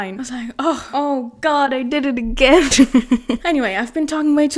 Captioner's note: laughs